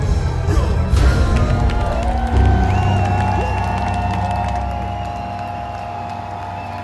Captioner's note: cheers; applause